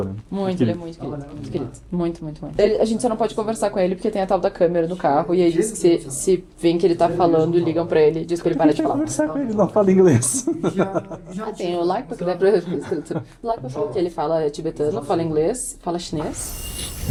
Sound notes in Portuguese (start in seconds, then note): 10.2 risadas